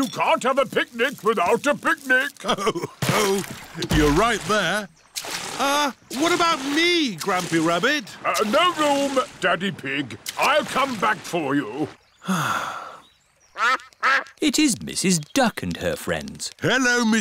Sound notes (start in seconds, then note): 12.2 sighs; 13.5 quacking